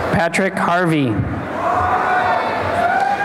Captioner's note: cheering and applause